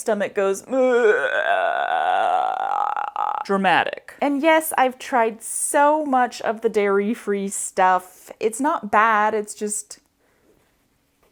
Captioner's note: intense dying noises